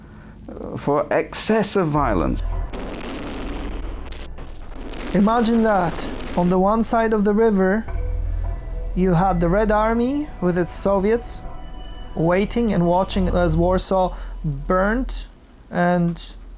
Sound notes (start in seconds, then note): 3.3 explosions booming